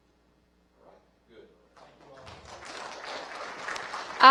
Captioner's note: applause